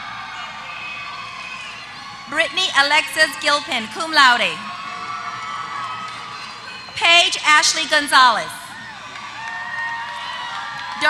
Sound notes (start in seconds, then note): 4.5 applause; 8.7 applause